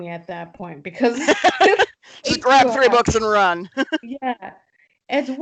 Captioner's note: laughs